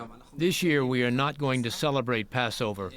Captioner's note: through translator